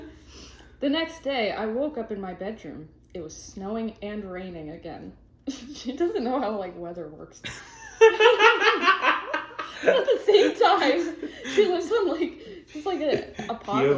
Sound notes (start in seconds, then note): 7.4 laughing